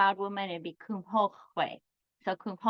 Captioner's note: speaks in foreign language